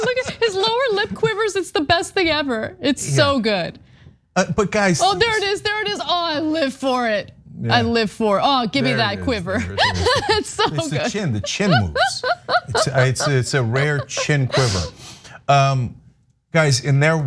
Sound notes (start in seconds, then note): 0.0 laugh; 8.8 laugh